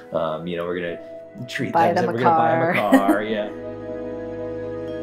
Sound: both laugh

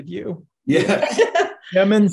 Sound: laughing

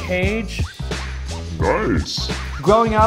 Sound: sound effect: Nice!

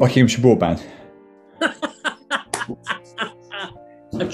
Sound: laughing

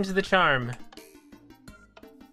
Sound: click

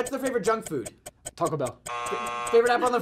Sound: buzzer

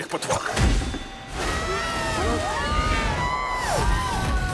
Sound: all shouting

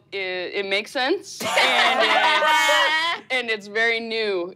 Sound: laughing

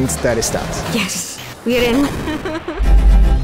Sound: laughs

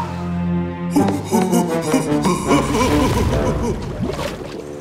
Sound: laughing

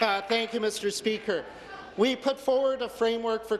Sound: applause

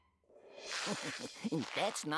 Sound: chuckling

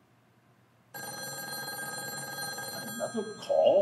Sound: phone ringing

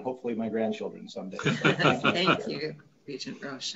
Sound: laughs

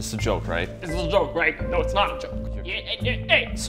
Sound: mimics

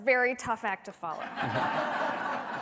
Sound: laughter

